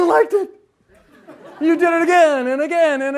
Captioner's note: audience laughs